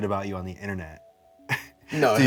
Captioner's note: scoffs